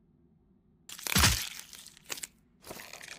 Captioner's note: Crunch